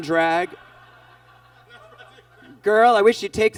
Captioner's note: audience laughs